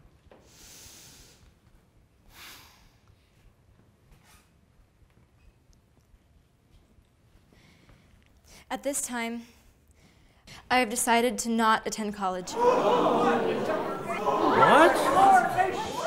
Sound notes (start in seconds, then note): 12.4 crowd gasps